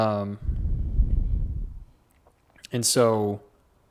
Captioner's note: exhales